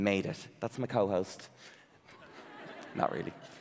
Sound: audience laughing

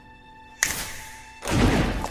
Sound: fingers snap

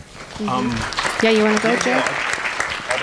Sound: applause

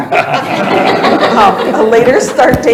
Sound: laughter

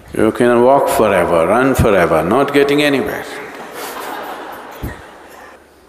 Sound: all laugh; 全部笑

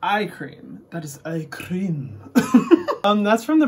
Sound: laughs

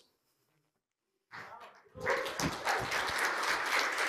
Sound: cheering and applause

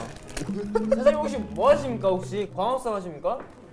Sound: bursts out laughing

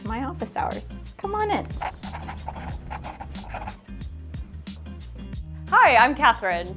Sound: writing scratches on paper

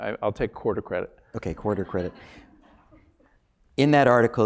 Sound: laugh

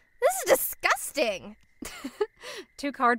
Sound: chuckles

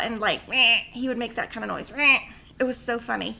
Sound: mimicking camel; mimicking camel

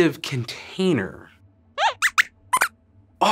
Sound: squeaks squeaks

